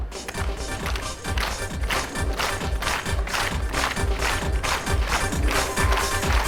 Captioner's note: audience clapping; upbeat music